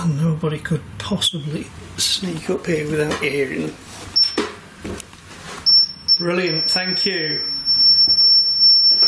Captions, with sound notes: Nobody could possibly sneak up here without you hearing. (metre beeps) Brilliant, thank you.